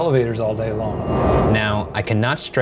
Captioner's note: air whooshing